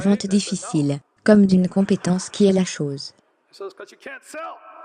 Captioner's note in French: rire